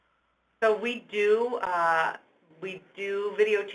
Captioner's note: voiceover